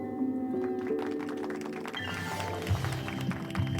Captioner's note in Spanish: aplausos